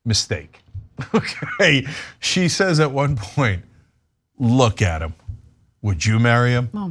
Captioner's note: laugh